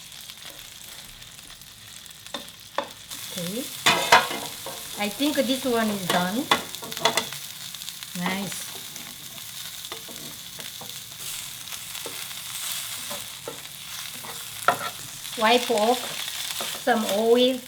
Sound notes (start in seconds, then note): 9.3 oil sizzles